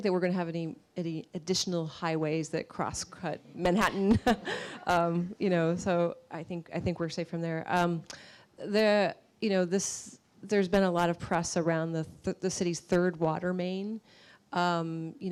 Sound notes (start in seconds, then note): 5.1 laughs